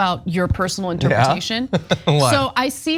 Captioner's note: laugh